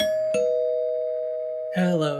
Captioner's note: door bell